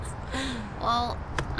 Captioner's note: laughs